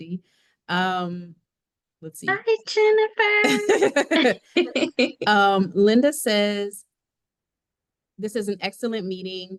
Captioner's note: laughs